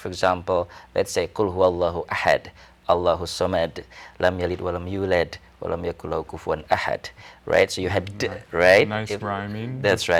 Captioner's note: speaking in Arabic